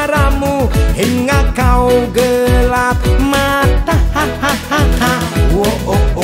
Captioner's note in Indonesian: ha ha ha ha